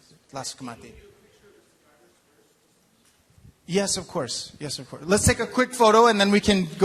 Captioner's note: speaking in native language